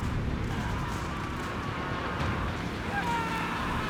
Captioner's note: screaming